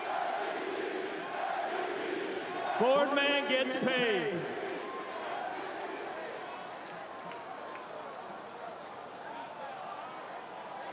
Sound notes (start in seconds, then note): 1.2 chanting